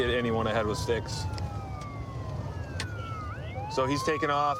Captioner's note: sirens wailing